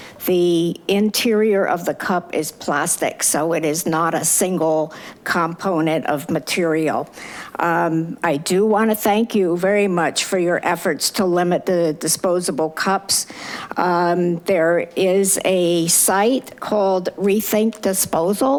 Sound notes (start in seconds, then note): none